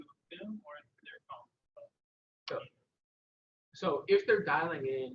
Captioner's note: audio drops